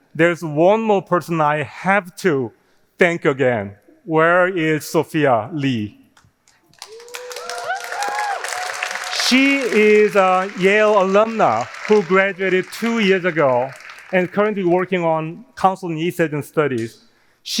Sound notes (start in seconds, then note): 6.5 audience cheering; 7.8 audience applauding